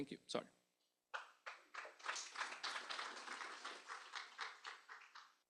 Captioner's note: applause